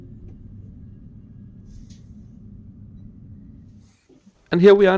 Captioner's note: ambient train noise